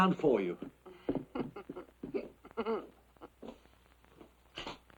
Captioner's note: Dolly laughing